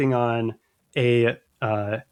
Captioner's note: uh